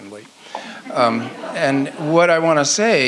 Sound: audience laughs

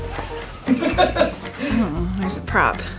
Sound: laughs

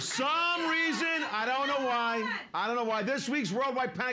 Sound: woman shouting

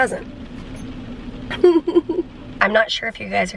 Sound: chuckles

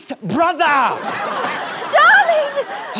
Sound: coughs

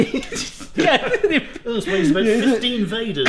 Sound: both laughing

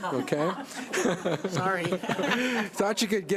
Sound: laughter

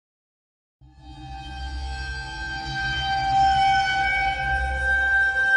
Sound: eerie Sound Effects

